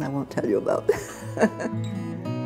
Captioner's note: laughter